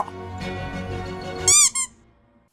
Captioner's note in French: couinement